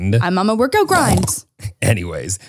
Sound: snorting

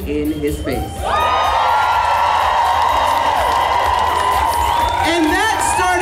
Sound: audience cheers

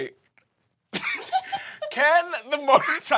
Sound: giggling

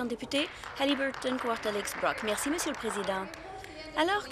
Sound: some Applause

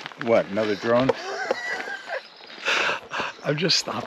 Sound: laughing

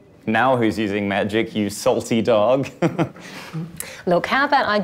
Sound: chuckles

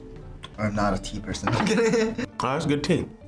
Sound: laughs

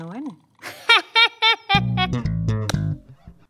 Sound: laughing

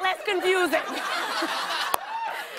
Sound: laughter

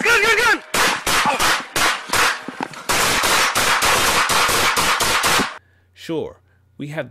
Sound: gun shots

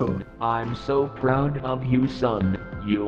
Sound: robotic voice

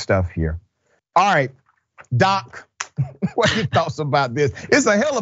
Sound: laugh

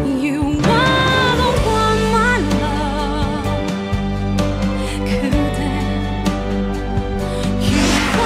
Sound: none

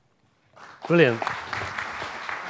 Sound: audience clapping wildly

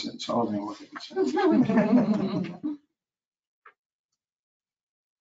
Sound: chuckling

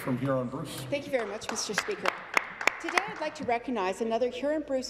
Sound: some Applause

